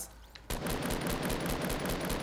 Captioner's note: gunfire